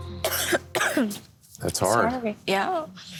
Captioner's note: woman coughing